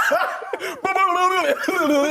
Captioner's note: laughing